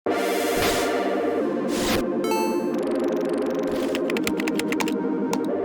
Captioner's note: electronic music; keys clacking